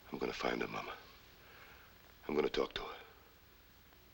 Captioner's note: none